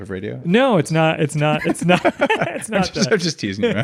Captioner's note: laughs